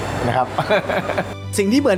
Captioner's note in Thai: เสียงหัวเราะ